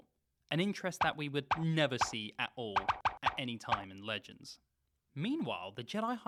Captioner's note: sarcastic Bri'ish noises